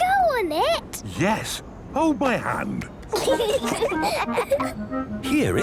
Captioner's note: children giggling